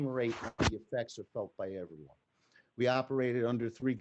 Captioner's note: microphone clicks